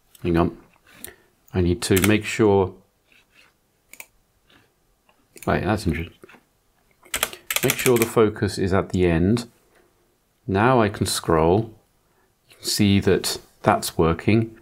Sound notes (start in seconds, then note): 2.7 blank Audio